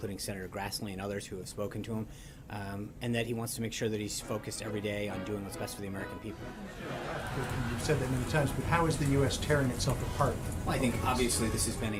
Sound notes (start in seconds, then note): 5.9 laugh track